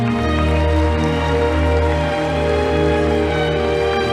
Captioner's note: audience applauding